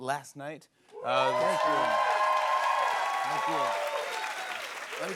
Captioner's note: cheers and applause